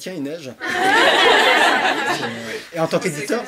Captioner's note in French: rires